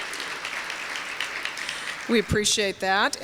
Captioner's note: applause continues